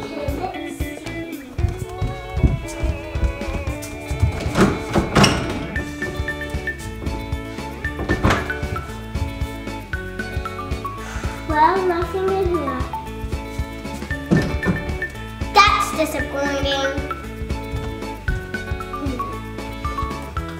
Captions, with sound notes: - Okay, let's see. (door opening) (door opening) Well, nothing in here. (doors closing) That's disappointing. (upbeat music)